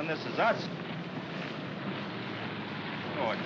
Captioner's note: feet marching